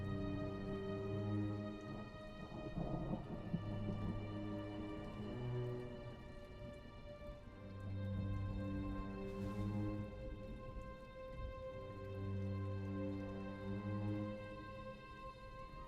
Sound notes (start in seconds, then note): 1.4 thunder grumbling; 8.3 eerie music